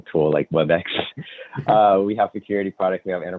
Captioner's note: laughs